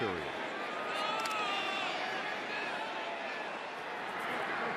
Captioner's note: shouting